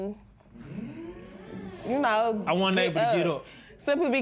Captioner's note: spectators murmur